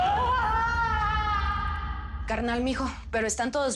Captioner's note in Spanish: Quejidos